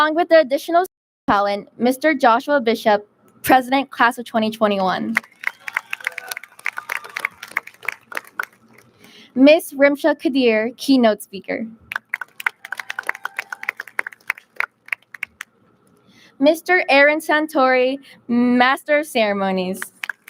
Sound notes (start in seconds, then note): 5.1 audience lauds; 11.9 audience claps; 19.8 audience claps